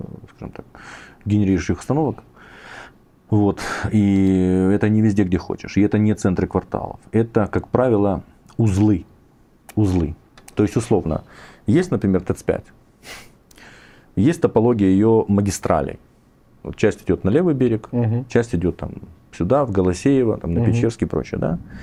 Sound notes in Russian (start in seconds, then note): 12.9 фыркает